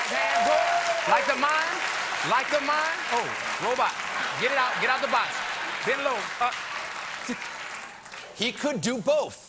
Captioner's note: applause